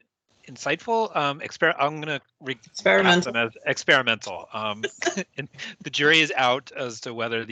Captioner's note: laughes